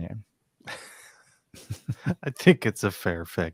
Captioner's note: laughing